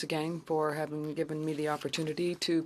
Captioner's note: speaking French